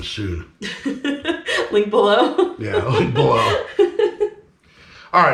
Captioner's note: chuckling